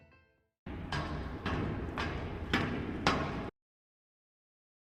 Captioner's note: footsteps upstairs